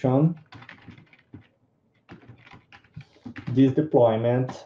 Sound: computer keys clicking

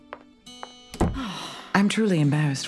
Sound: Harley Quinn sighs

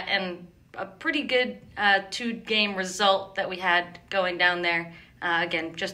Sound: none

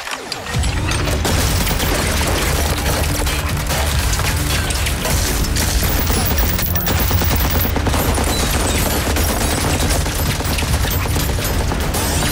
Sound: gunshots

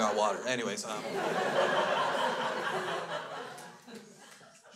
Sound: crowd laughs

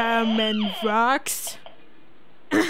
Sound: cough

